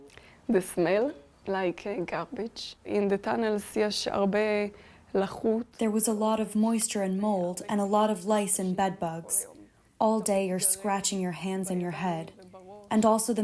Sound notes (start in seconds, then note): 5.8 through translator